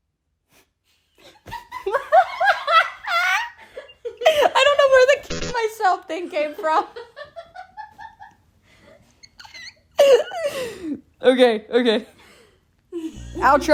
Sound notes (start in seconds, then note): 1.5 me and my roommate laughing